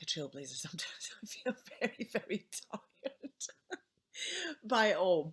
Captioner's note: laughing